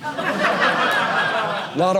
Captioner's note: audience laughing